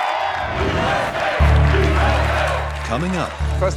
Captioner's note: todos cantando "EUA"